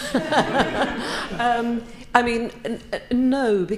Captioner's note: audience laughing